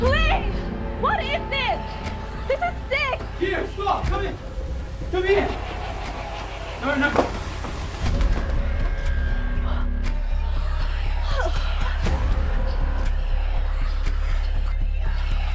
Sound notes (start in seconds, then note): 7.8 suspenseful music; 11.2 Keo gasps; 12.3 Whispering voices within Keo’s mind accompanied by Suspenseful music